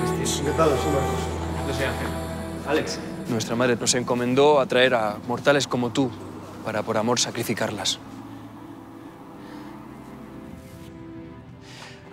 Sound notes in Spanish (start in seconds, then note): none